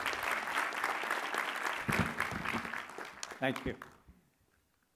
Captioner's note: applause